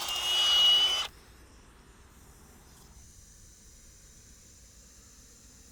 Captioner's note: tire deflating sound